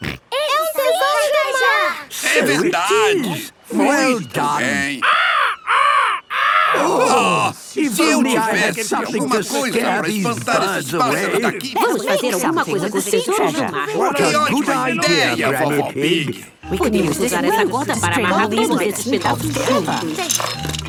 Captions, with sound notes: It's sea treasure! - So it is! Well done! (seagulls cries) - Oh! If only I had something to scare these birds away! - Let's make something with the sea treasure! - What a good idea, Granny Pig! - We can use this rope to string all these bits and bobs together.